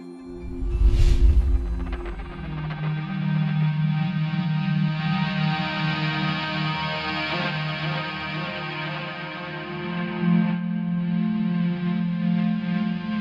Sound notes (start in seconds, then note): 0.3 air whooshing; 0.6 placid music; 9.5 placid music continues